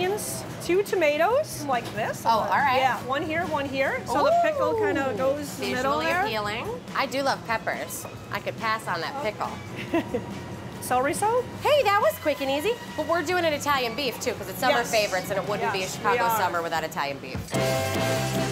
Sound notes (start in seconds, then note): 4.1 exclaims; 9.7 laughs